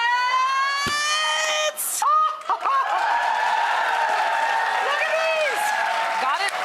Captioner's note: audience cheering